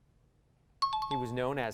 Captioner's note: pinging